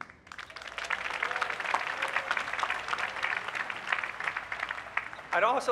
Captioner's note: applause